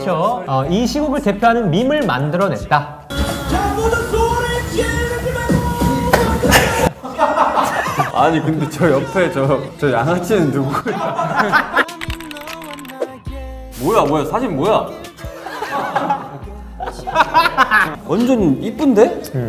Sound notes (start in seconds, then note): 6.4 laughing; 10.4 laughing